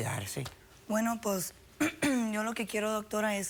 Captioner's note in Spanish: Carraspea